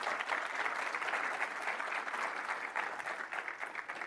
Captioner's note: applause